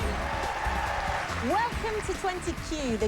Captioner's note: laughs